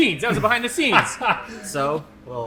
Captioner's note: laughs